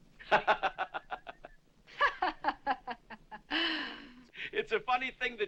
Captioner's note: sarcastically